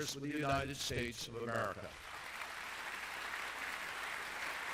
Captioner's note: applause